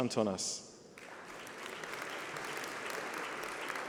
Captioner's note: applause